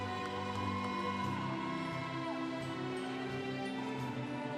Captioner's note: congregation cheering